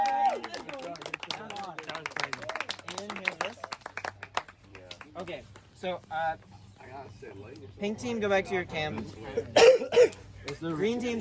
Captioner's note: clapping and Cheering